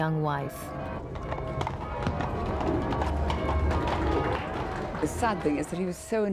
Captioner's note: horses running